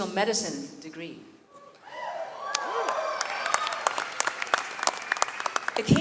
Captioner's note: audience cheering and clapping